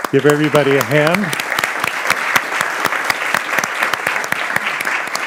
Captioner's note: audience applauding